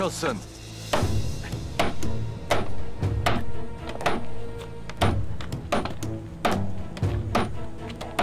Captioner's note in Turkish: Çekiç sesi